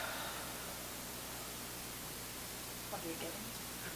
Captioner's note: exhaling